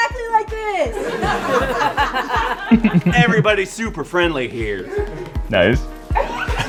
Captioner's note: laughter; laughter